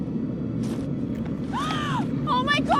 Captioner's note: gasps